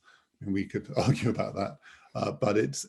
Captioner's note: chuckles